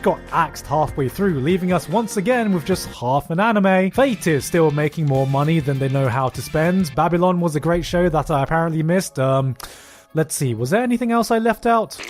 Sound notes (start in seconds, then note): 9.6 weird gasp